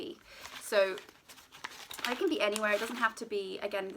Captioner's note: paper crinkling